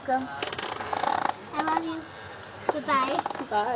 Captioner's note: background chatter